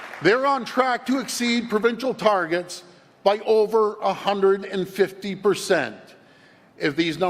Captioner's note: applause